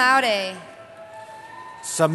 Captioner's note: cheering